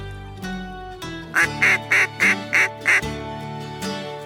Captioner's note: duck call